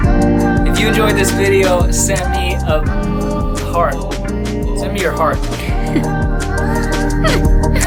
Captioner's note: laughing